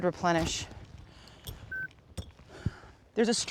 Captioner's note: beep